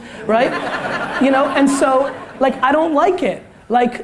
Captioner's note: audience laughter